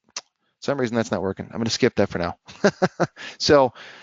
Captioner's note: laughs